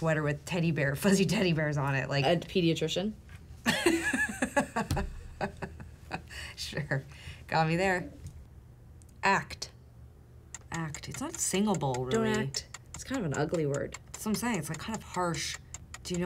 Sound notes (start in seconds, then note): 3.7 laughing